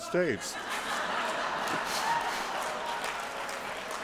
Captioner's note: laughter